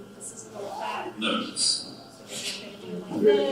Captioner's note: computer Voice